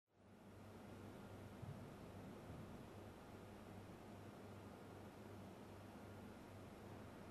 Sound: recording noise

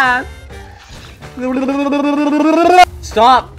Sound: blowing bubbles

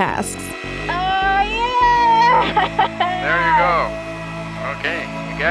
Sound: laughs

